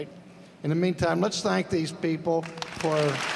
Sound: applause

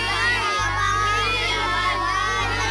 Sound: indistinct chattering

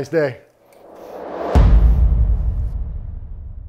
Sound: air whooshing

